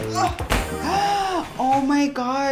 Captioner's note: gasping